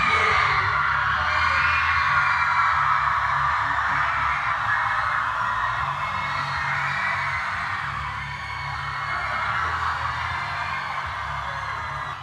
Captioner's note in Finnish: Yleisön huutoa ja suosionosoituksia